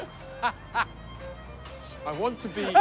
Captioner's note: laughs